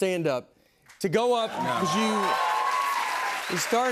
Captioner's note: cheers and applause